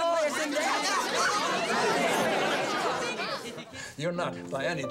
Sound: audience laughing

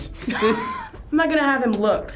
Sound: wheezes

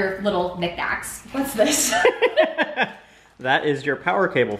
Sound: laughing

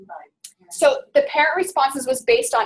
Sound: voiceover

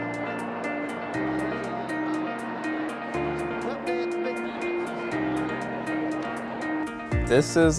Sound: crowd chatter

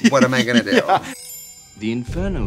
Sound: laughing; twinkling

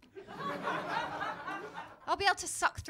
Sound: laughter

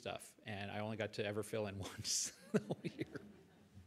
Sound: laughs

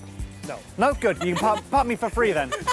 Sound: laughing

